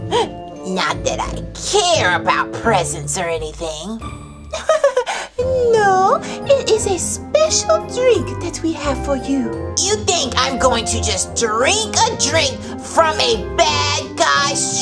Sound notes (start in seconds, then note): 4.5 giggles